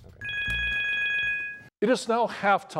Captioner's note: timer rings